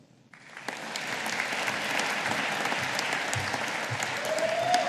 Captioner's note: audience applauding